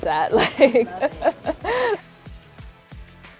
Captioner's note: she laughs; upbeat music